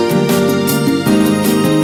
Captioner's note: laughs